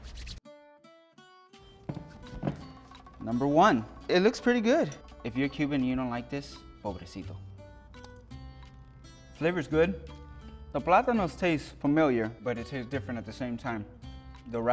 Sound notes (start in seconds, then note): 0.9 gentle music; 6.6 speaks in foreign language; 8.3 gentle music